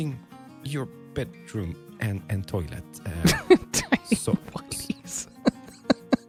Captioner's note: chuckles